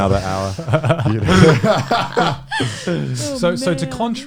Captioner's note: laughs